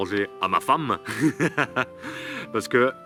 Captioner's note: laughs